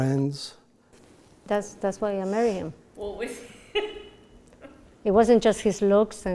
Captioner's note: laughter